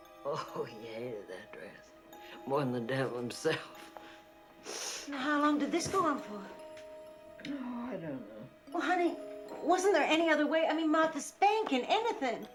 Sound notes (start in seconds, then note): 0.2 chuckles; 4.6 sniffles